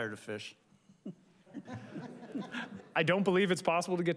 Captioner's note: audience chuckles